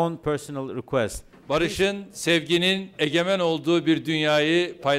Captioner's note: non-english speech